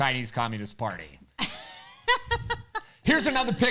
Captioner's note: laughing